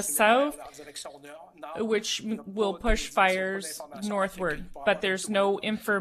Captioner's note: speaking French